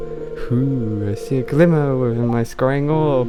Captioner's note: some strange accent